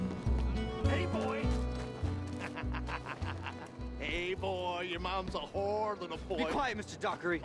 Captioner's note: laughs